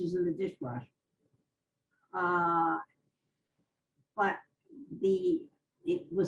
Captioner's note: pauses for 3 seconds